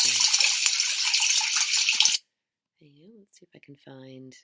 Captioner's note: rain pattering